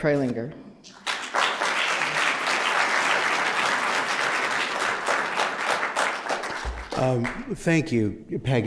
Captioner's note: applause